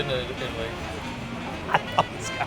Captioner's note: laughs